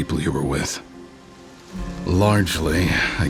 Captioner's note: sonidos de viento